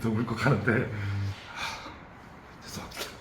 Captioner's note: sighs